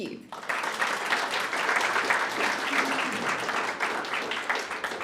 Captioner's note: audience applauds